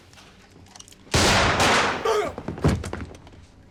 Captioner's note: gunshots; groans